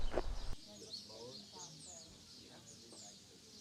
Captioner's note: muffled chatter